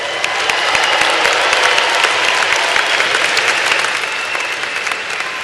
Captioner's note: applause